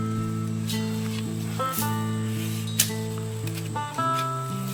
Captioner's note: dirt rustling